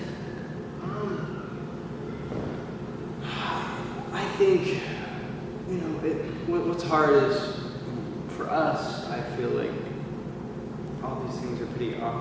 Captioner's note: deep breath